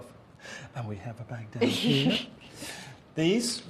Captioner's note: chuckles